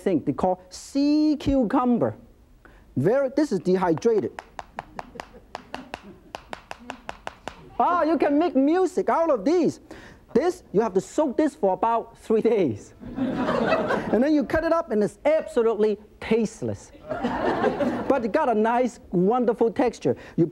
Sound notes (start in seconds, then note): 3.8 sea cucumber tapping; 13.1 laughs; 17.0 audience laughs